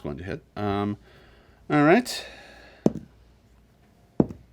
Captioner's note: dice thud